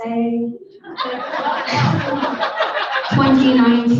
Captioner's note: audience laughing